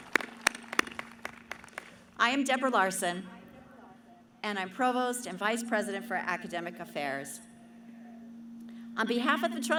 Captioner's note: cheering